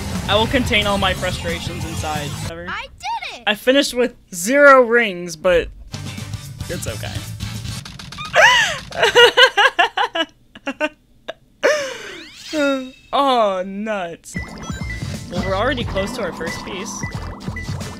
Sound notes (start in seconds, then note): 8.2 jovial laughter; 10.5 laughter dies; 14.4 radar pings